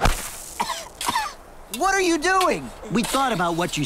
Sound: coughs

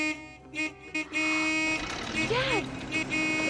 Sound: car horn honking

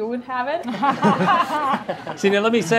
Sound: laughter

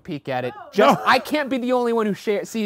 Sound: background yelling

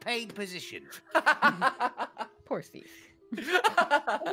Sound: laughing

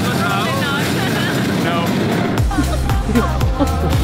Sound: laughing; upbeat music

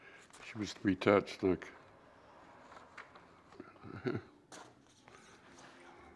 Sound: chuckles

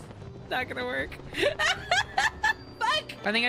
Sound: laughter

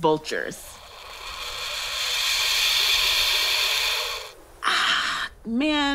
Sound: turkey Vulture makes a throaty call

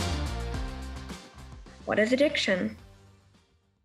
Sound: female voice over

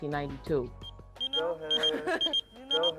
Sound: beeper beeps

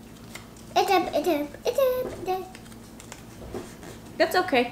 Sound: vocalizing

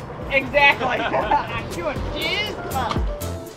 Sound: laughs; mellow techno music

